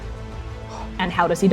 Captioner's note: gasping